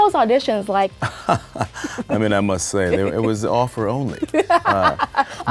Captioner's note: laughing